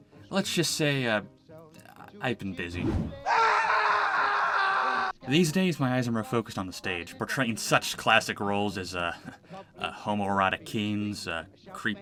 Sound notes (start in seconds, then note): 3.2 screaming